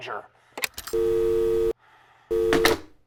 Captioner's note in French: Téléphone accroche